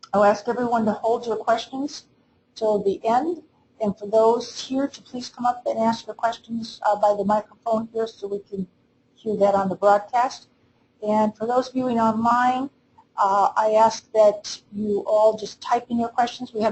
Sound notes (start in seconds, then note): none